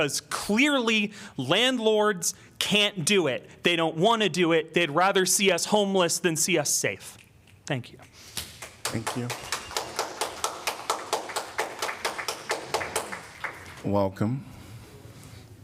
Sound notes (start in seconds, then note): 8.4 applause